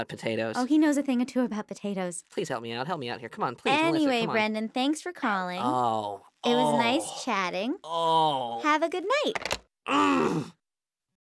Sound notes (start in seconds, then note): 7.9 growls; 8.7 click